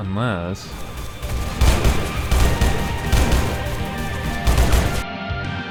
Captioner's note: gunfire and Awesome Music Kicks In